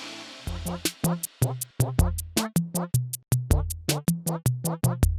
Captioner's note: upbeat cartoon sounds